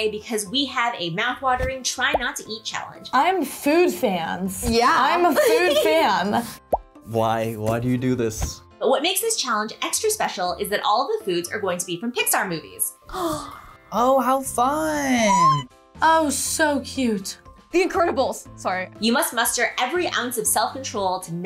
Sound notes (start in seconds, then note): 13.1 gasps